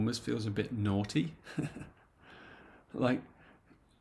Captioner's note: chuckles